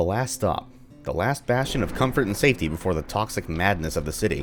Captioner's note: thunder